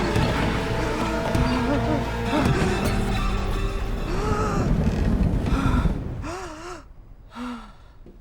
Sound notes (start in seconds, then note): 3.8 gasping